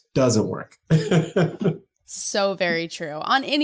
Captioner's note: laughing